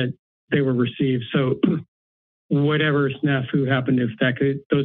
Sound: clears throat

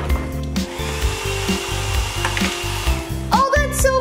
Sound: hair dryer whirring

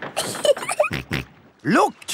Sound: giggling; snorts

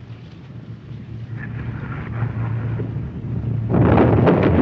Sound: rumbling; explosion

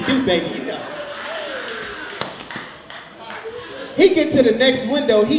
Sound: audience laughs

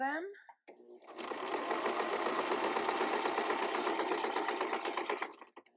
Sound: sewing machine clattering

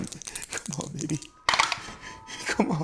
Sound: dice rattling

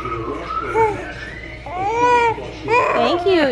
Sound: baby mumbles

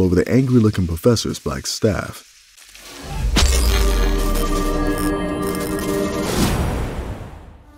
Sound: magic crackling

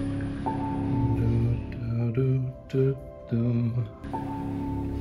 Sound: mindful humming

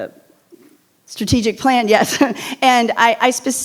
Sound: chuckles

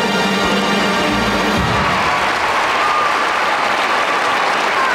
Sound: audience applauding

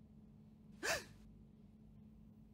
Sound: gasps

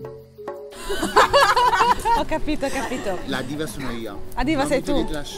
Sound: laughing

